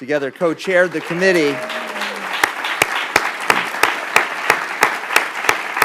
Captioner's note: applause